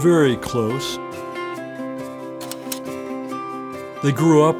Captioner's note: upbeat guitar music; slide clicks